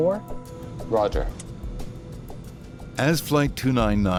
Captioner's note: airplane engine roaring